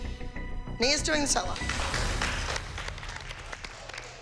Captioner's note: all clapping